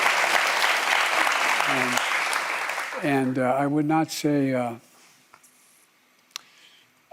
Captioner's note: applause